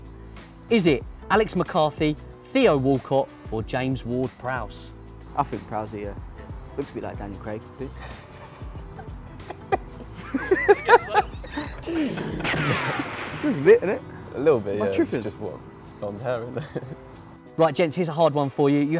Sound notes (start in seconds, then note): 9.8 laughing